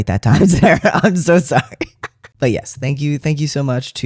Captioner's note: laughter